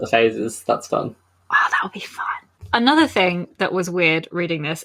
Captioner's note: whispers